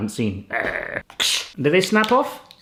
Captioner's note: growls